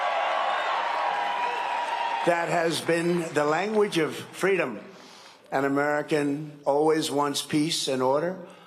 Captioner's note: cheering and applause